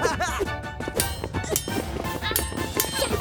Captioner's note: metallic clanking